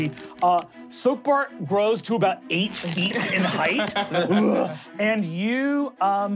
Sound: ripping; growling

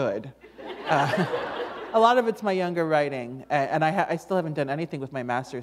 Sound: laughter

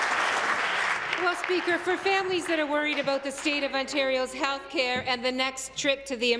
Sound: applause

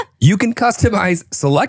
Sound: laughing

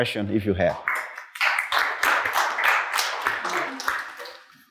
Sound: applause

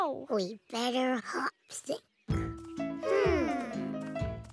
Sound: "hmm" as they think

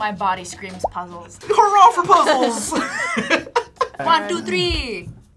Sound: laughs

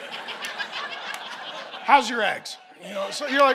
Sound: congregation laughing

